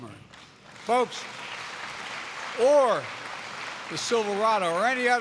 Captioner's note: applause